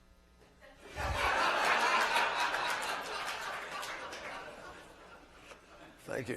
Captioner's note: laughter